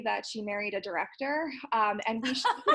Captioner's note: laughing